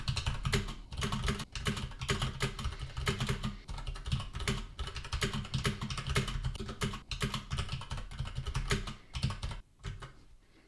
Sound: typing

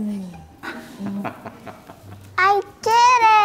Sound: laughs

